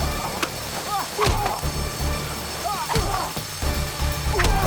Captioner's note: grunting